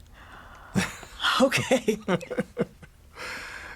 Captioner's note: laughter